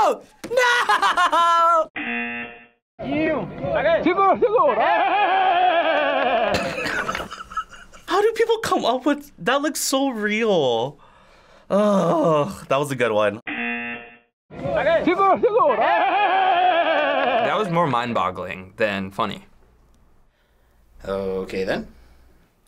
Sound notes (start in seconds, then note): 3.5 buzzer; 6.9 sighs; 8.1 "Freddy Krueger" shouts; 8.1 men scream; 11.3 buzzer; 12.7 "Freddy Krueger" shouts; 12.7 men scream